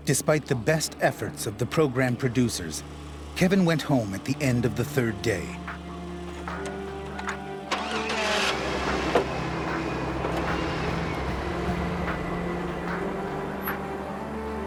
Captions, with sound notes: - [Voiceover] Despite the best efforts of the program producers, Kevin went home at the end of the third day. (truck starts)